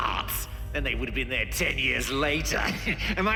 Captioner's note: chuckles